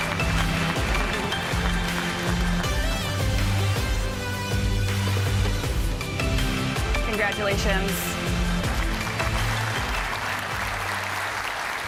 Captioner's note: applause